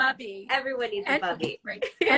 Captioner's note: laughs